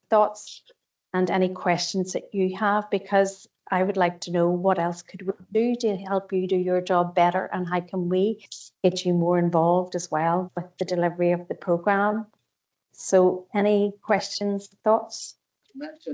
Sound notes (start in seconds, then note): 5.5 audio distorts 57.01